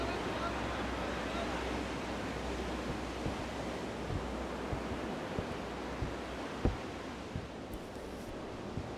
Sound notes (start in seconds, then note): 3.1 sounds of the ocean